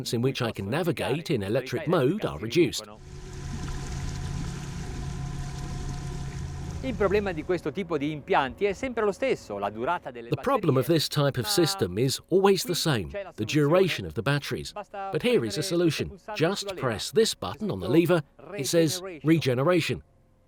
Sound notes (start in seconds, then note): 2.9 engine hums; 7.2 speaks in foreign language